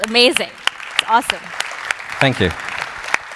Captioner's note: applause